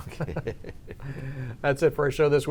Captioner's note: both laugh